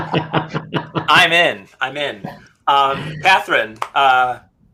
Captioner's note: laughing